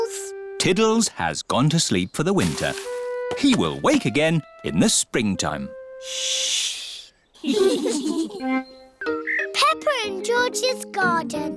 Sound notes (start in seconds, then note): 7.4 all giggle quietly; 7.4 all laugh